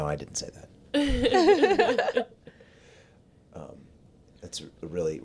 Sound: laughs

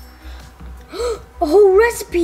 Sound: sparkling; gasping

